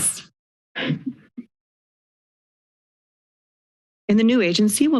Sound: silence

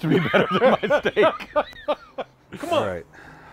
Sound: both laughing

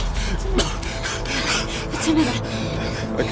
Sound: coughing

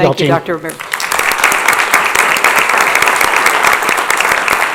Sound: audience applauds

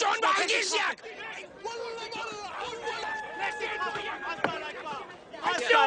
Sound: random yelling in Hebrew and Arabic

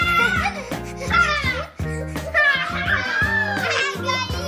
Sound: laughing

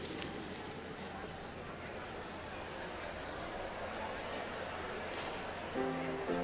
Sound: congregation chattering in the background

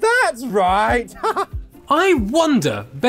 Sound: Ziggy laughs

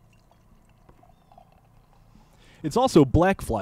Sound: beer cans pouring

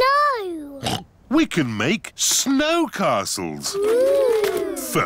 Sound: oinks

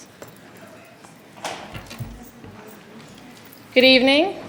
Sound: speaking faintly

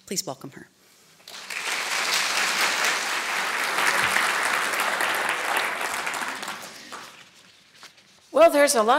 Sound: clapping

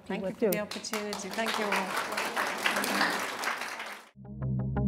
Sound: applause

